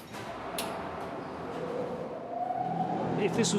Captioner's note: fan whirring